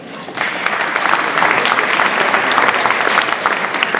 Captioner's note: audience applauds